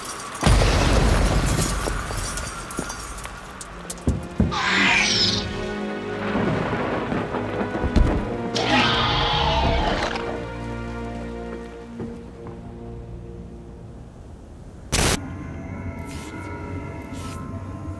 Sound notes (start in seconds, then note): 4.5 velociraptor screams; 6.2 dramatic music; 8.5 velociraptor screams